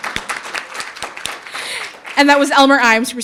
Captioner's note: audience applauding